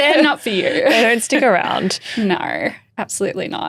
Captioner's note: laughing